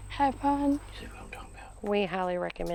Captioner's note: talks softly